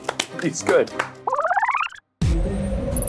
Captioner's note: tape rewinding; suspenseful music